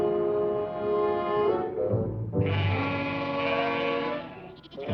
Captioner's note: baaing, bleating